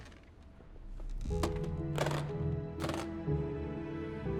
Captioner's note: case clicking shut